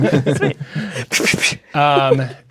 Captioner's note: imitates gunfire